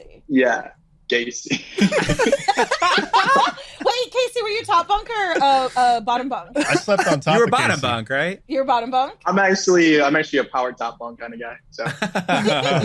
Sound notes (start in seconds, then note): 6.6 group laughs loudly